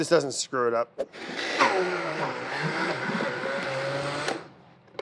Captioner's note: mixing sounds